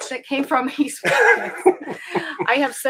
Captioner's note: laughing